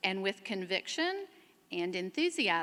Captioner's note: none